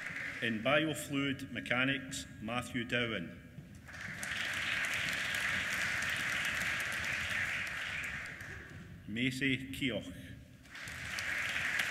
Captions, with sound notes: In Biofluid Mechanics, Matthew Dowhan. (APPLAUSE) Maisie Keogh. AP